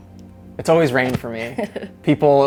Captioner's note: laughs